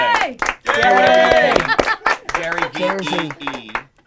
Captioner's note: cheering